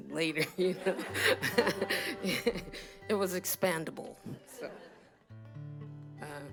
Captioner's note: laughter